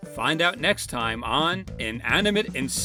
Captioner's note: none